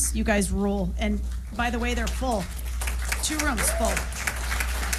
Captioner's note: applause